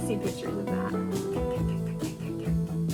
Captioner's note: mocking machine gun noises